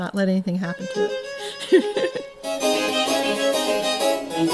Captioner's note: chuckles